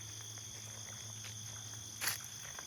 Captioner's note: steps on the grass